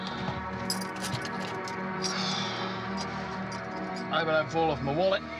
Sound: keys jangling; sighing

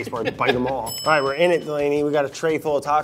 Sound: bell dings

